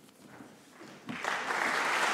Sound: applause

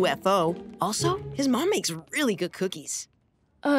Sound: none

